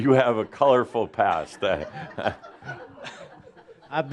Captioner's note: more chuckles